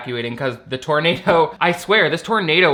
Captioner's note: laughs